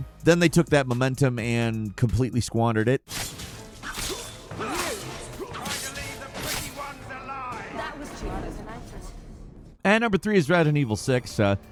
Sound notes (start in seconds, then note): 3.1 sword whooshing; 3.9 characters grunting; 7.9 voice echoes